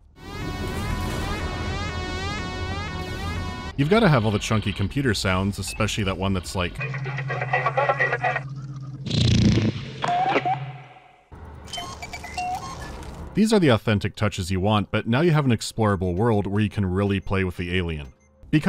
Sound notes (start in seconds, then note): 0.0 the siren; 10.0 dwoo-boo-doop; 11.7 dwee-dee-dee-doo-dip